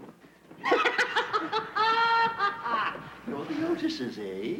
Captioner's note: Sir Simon cackling